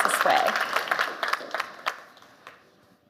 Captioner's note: audience applause